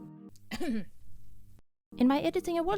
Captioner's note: ahem